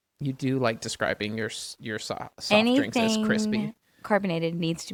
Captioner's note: none